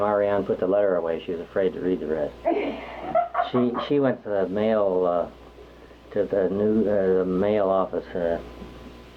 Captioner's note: laughs